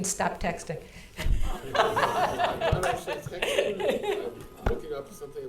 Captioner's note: audience laughing